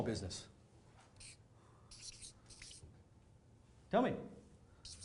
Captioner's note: marker scratching on paper